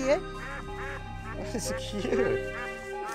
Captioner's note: duck quacking; chuckling